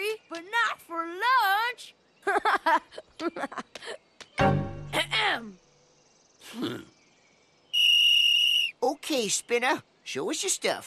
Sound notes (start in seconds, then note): 2.2 giggle; 7.7 whistle